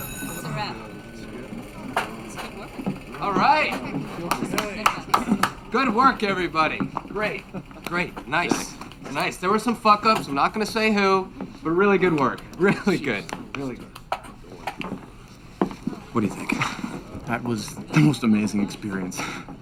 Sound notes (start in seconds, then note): 0.0 bell ringing; 4.0 clapping